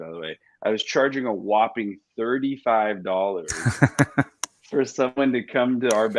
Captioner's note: laughs